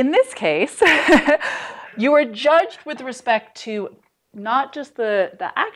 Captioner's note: laughter